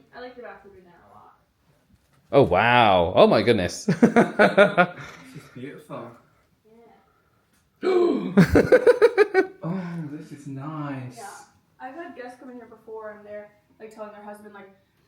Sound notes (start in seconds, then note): 3.9 laughs; 8.0 laughs; 8.0 gasps